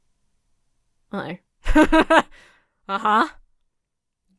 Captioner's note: laughs